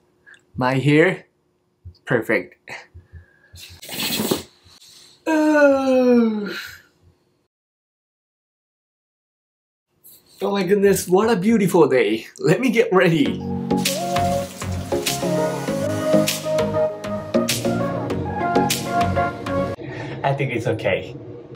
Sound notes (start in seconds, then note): 5.2 yawning